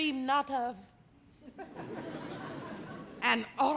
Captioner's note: audience laugh